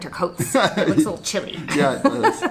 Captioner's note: laughing